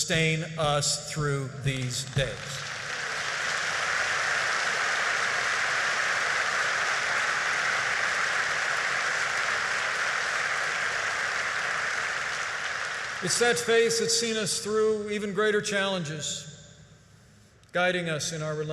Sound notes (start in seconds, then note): 1.7 applause